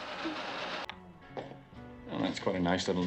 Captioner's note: footsteps